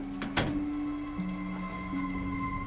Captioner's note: door closes